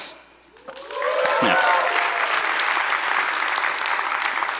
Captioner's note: audience applauds